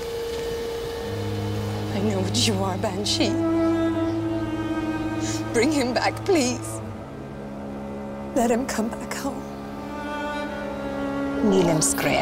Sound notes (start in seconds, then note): none